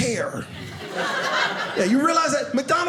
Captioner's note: audience laughing